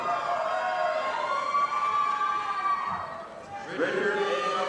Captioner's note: audience applauding